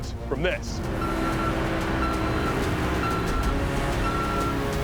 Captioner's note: truck beeping